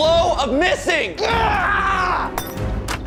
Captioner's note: groaning; glass shattering